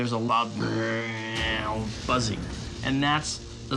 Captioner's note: imitates buzzing